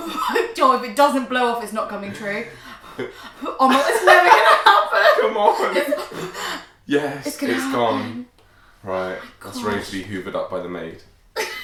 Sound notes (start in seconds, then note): 0.0 blows; 2.9 blows; 5.0 laughter; 7.4 blows; 11.4 laughter